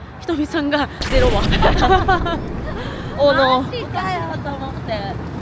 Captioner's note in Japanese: 笑い